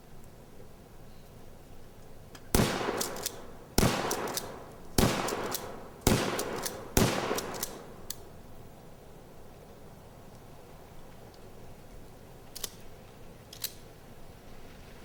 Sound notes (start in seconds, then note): 2.5 gun fires